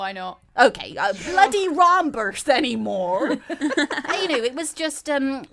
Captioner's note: all laugh